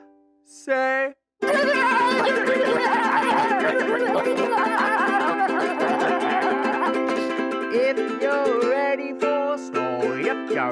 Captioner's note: silly noises